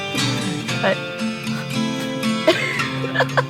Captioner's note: laughs